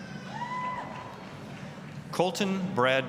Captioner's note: applause, cheering